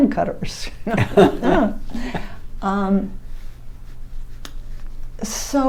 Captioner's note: laughs